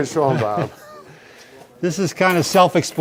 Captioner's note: laughing